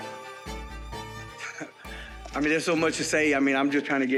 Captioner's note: chuckles